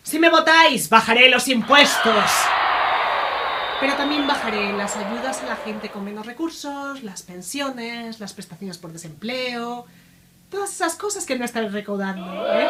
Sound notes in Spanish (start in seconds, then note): 10.4 Abucheos